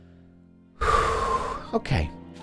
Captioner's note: breathes Out